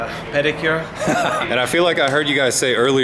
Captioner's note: laughter